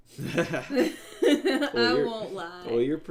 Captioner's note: laughing